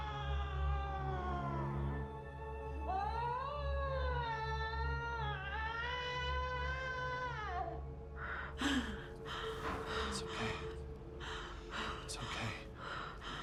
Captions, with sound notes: ( screaming continues ) ( panting ) It's okay. It's okay.